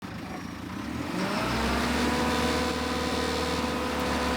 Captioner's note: vehicle whirring